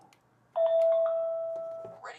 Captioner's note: ding